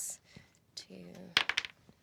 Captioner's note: rolls dice